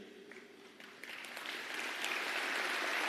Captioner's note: applause